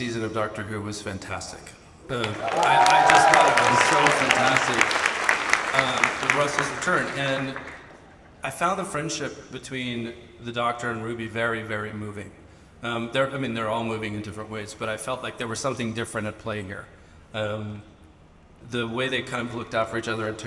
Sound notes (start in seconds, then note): 2.1 audience applauds and cheers